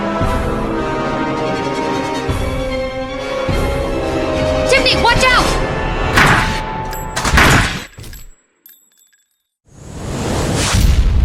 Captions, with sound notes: Tiffany! Watch out! [gunfire]